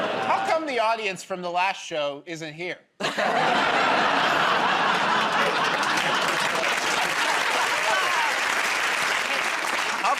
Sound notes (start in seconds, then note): 3.0 laughter; 4.8 applause